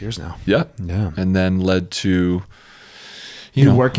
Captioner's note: inhales